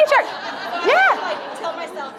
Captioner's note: audience laughing